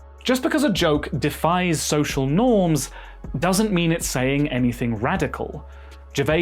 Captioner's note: none